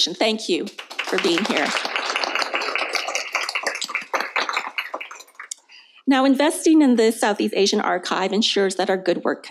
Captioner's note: applause